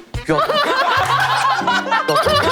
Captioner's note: hahahahahaha